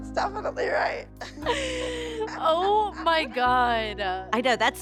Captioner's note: laughs